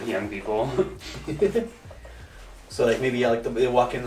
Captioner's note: laughs